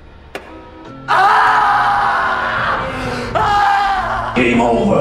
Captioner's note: adam screaming